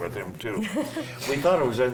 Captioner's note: laughs